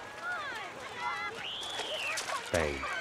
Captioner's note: water splashing and children shrieking on screen